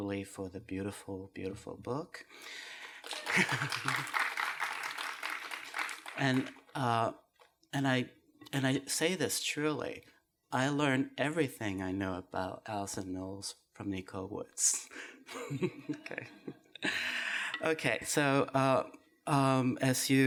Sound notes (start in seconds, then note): 2.4 applause; 14.7 laughs